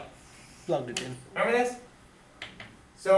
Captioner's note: voiceover